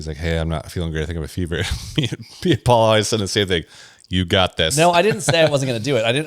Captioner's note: laughs